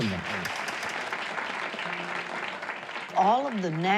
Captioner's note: audience applauding